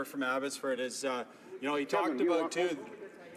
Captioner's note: some Applause